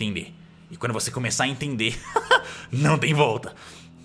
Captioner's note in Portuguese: risos